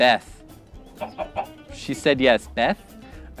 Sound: clucking

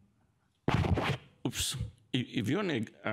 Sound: mic thumps

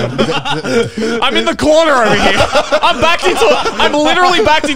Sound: all laughing

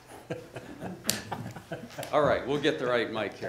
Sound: gentlemen laughing

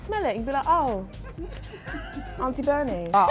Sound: laughs

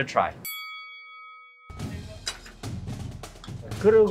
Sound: bell ringing; speaking in Korean

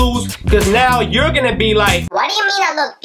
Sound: speaking in a high pitch

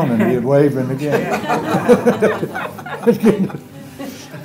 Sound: laughter

